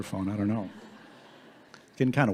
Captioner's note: audience laughing